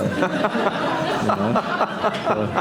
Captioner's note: laughter